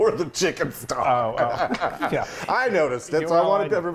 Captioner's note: laughs